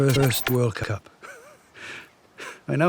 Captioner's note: laughing